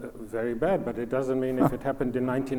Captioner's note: snickers haughtily